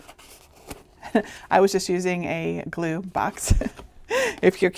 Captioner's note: chuckling